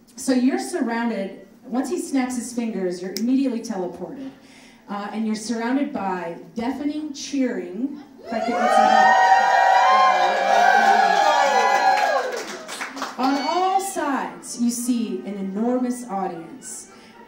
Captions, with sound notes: So you're surrounded, once he snaps his fingers, you're immediately teleported and you're surrounded by deafening cheering, if I could get some help. (audience cheering) On all sides, you see an enormous audience